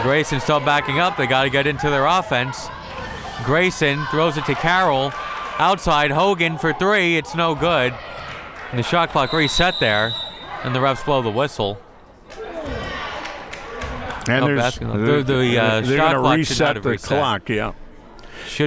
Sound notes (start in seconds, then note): 9.2 whistle tweeting